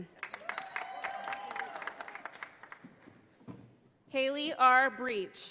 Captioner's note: audience applauding